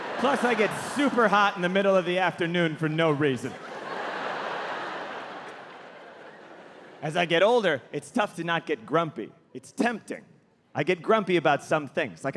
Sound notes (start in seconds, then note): 3.8 audience laughing